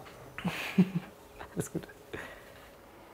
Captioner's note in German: kichert